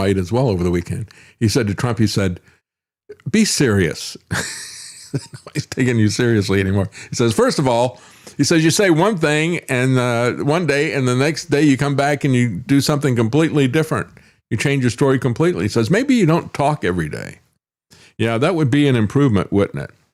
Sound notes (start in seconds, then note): 4.3 laughs